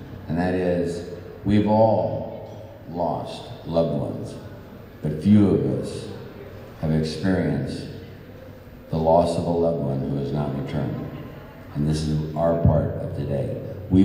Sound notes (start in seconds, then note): none